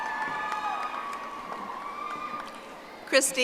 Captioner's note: audience applauding